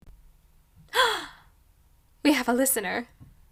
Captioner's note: gasp of pleasant surprise